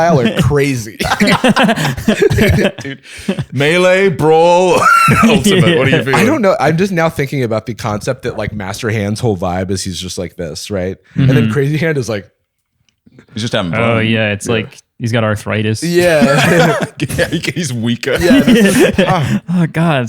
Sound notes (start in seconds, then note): 0.9 laughter; 18.1 laughter